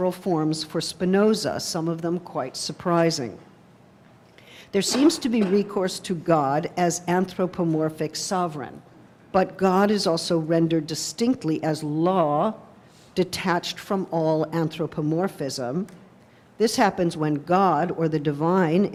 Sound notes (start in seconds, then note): none